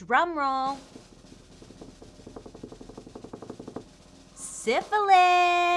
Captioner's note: drumroll rumbling; tapping